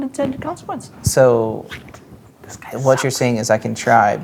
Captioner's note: whispers